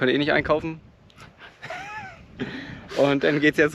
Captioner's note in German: beide lachen